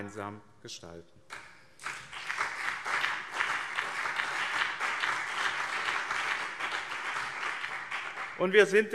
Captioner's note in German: Beifall BÜNDNIS 90/DIE GRÜNEN und CDU